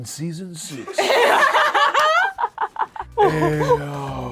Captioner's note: laughs